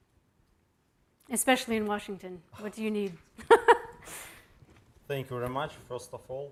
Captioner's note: laughing